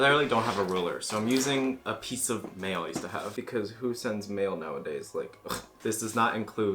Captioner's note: ugh